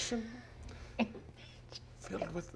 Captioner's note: chuckles